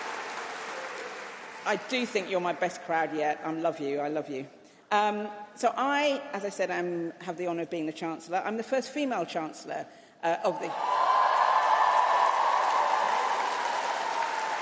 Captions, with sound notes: I do think you're my best crowd yet. I love you. I love you. So I, as I said, I'm have the honour of being the Chancellor. I'm the first female chancellor of the [Applause]